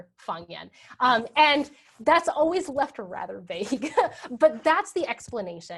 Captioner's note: laughs